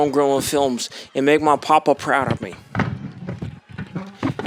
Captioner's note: Nick continues rustling around